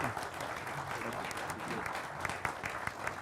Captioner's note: applauding